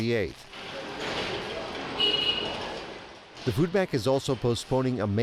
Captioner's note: machines echoing